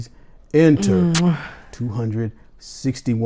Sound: woman blows kiss

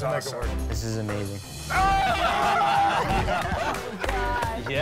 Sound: laughter

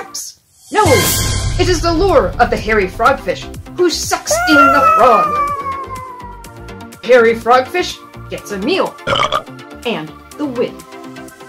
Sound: burp

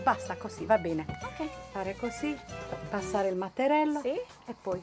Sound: speaking Italian; speaking Italian

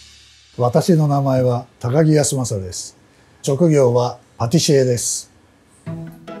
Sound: speaking in foreign language

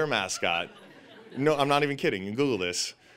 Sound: audience laughing

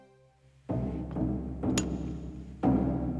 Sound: sword clicks; suspenseful music

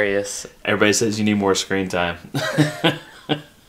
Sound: laughing

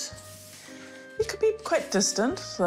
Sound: none

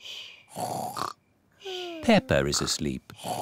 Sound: snores

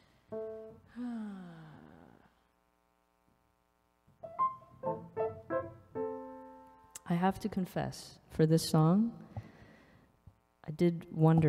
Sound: sighs

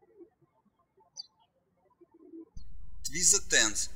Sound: birds chirping

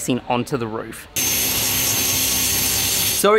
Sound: metal work sounds

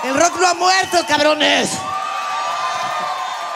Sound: alegrías de multitud

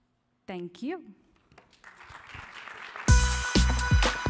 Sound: applause

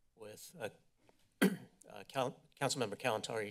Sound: clears throat

